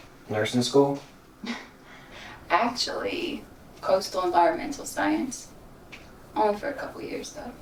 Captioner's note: chuckling